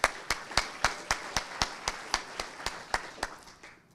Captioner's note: audience applauding